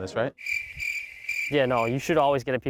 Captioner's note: crickets chirping